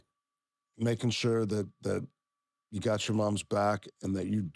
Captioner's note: none